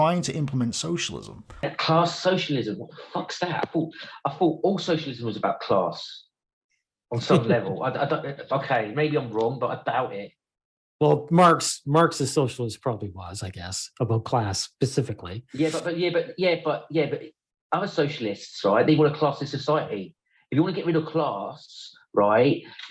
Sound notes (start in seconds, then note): 7.8 laughs